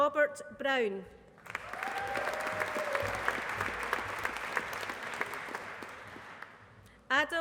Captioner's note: applause